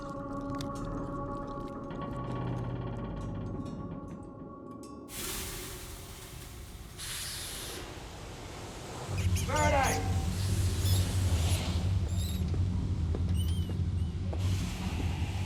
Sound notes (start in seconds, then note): 2.1 ship creaking; 5.1 exhaust hissing; 5.3 rat squeaking; 10.4 exhaust hissing; 10.4 pensive music